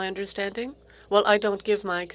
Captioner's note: speaking French